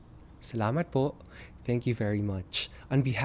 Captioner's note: non-english speech